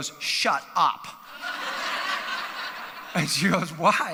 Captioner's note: audience laughs